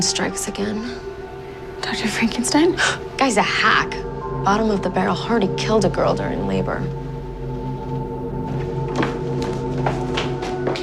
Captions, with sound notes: [sighs] Dr. Frankenstein strikes again. - Dr. Frankenstein? - 'Guy's a hack.' 'Bottom of the barrel. Heard he killed a girl during labor.'